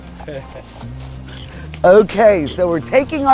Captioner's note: speaker laughs